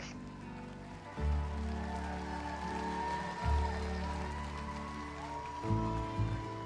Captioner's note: applause and cheering